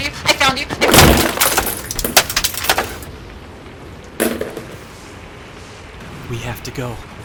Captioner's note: footsteps racing to the Radio, then the Radio being smashed against the ground